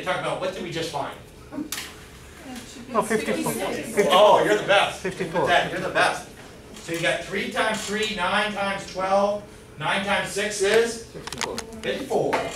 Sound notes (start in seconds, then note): 2.9 chattering